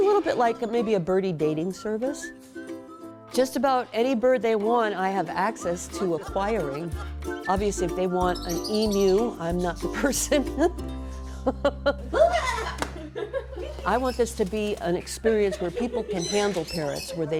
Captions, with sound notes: It's a little bit like a birdie dating service. Just about any bird they want I have access to acquiring Obviously if they want an Emu I'm not the person (laughs) I want this to be an experience where people can handle parrots.